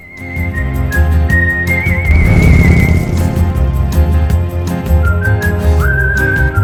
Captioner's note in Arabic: زئير دراجة نارية